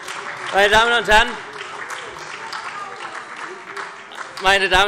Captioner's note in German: Beifall SPD und Freie Demokraten